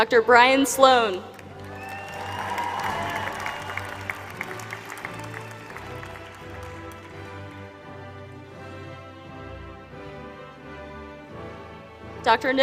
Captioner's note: applause